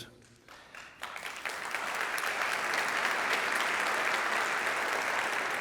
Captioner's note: audience applauding